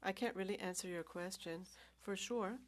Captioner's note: speaking french